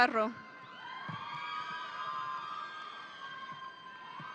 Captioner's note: audience cheering